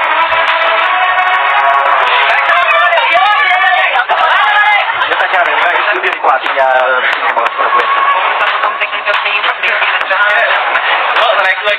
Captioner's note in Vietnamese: Vỗ tay